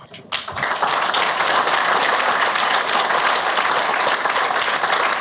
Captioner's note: audience applauds